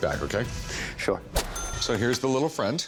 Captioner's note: ca-ching